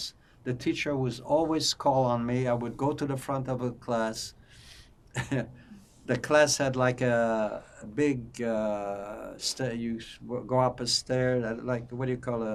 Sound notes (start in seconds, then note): 5.2 laughing